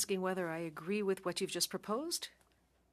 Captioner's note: speaking French